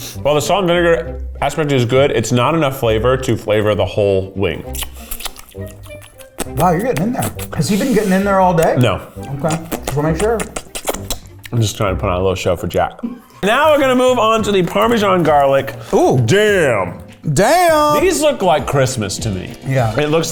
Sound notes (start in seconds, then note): 4.6 smacking lips; 4.8 quirky orchestra music